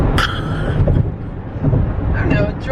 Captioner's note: chuckling